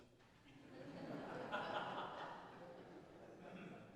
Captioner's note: audience laughs